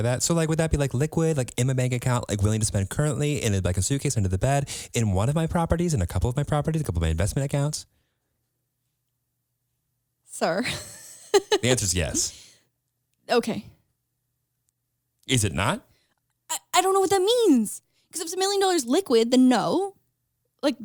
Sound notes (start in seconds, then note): 10.7 laughs